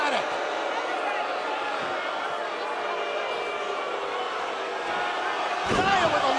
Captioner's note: crowd cheering